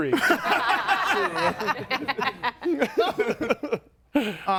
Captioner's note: group laughs